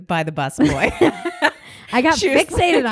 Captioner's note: both laugh